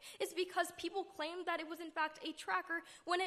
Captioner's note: none